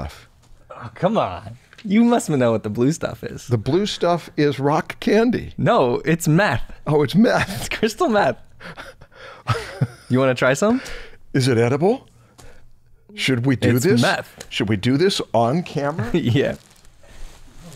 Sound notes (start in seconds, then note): 8.6 chuckles